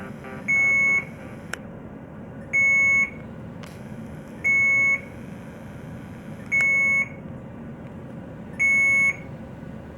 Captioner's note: beeping sounds